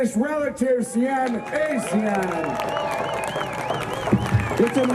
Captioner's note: people clapping and cheering